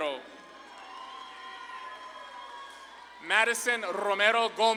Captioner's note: audience claps and cheers